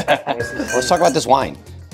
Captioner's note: laughs